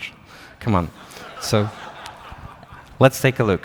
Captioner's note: laughter